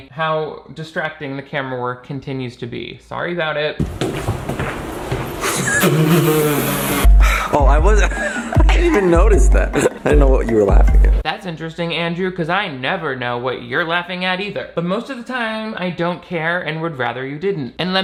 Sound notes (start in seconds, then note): 5.4 Shane blowing a raspberry; 5.4 laughing